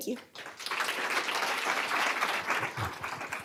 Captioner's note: applause